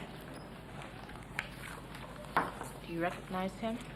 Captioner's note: paper crackling